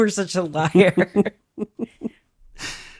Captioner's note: laughs